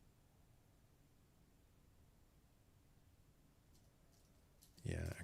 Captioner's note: silence